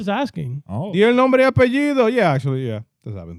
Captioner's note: speaking In Foreign Language